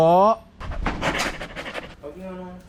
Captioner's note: panting